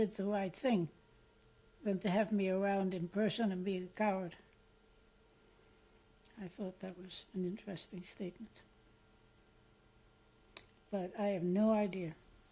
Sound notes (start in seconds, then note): 8.3 pauses for 3 seconds